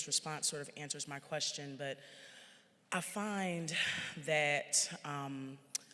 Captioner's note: sighs